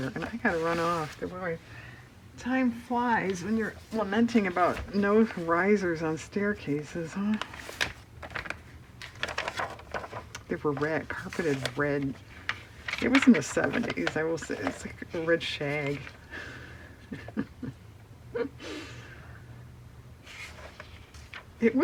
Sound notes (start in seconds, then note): 17.0 laughs